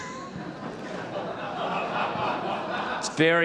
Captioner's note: audience laughs